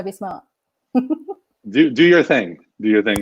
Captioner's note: laughing